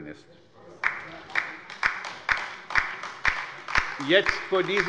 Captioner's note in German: Beifall bei der LINKEN